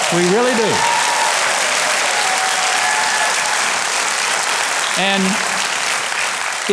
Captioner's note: audience claps and cheers